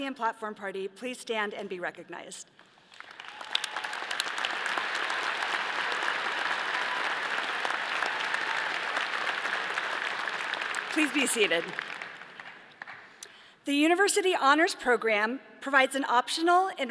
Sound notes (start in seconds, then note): 2.6 all applauding; 3.2 all cheering